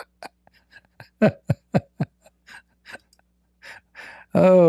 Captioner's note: Ketawa